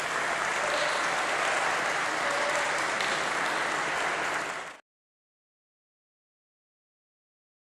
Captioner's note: applause